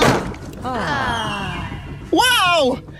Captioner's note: Leafy, Gelatin and Lollipop scream, smacking onto the roof; train chugging; calmly